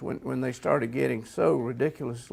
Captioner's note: none